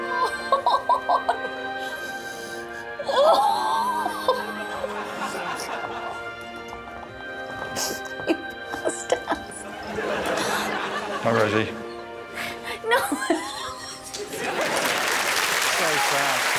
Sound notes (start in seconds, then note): 0.0 cries; 0.0 Rosie laughs/cries; 3.8 Rosie exclaims; 12.8 laughs